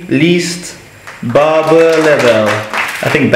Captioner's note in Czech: Potlesk